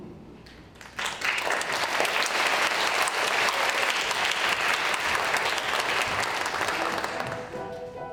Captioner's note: applause